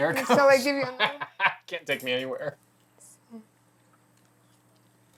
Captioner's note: laughing